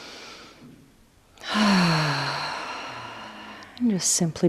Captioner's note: sighs